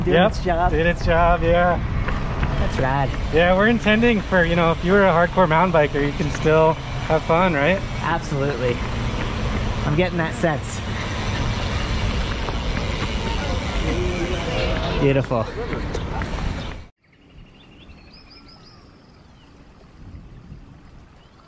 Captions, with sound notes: doing its job. - Yep, doing its job, yeah. - That's rad. - Yeah, we're intending for, you know, if you were a hardcore mountain biker you can still have fun, right? - Absolutely, I'm getting that sense. Beautiful. (birds chirping)